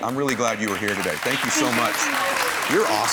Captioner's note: applause